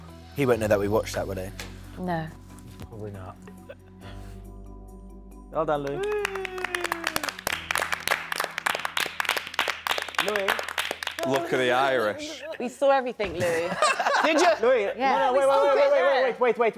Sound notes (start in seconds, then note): 5.8 clapping; 13.5 laughing